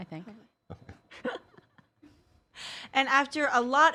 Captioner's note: laughing